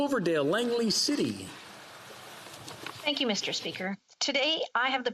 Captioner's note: speaking French